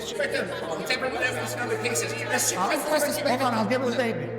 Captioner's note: people chattering indistinctly